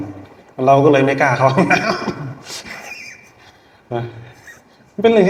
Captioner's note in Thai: เสียงหัวเราะ